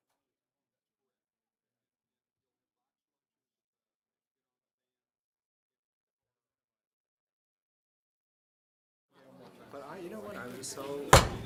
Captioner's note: gavel